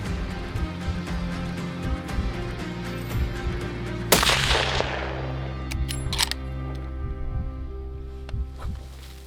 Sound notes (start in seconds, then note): 4.1 shotgun blasts; 6.2 gun reloading